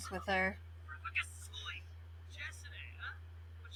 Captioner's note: sims speaking simlish